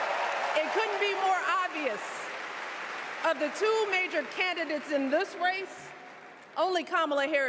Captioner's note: cheers and applause